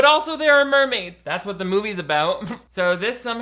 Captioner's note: laughs